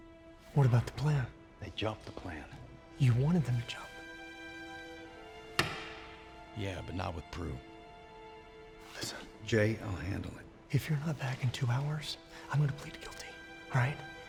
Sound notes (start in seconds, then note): 5.3 wedding ring clatters; 7.9 whispers; 11.0 whispers